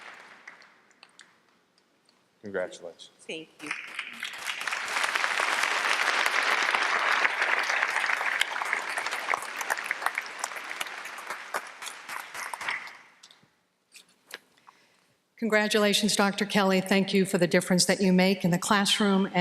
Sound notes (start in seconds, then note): 3.6 applause